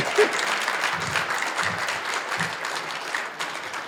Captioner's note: applause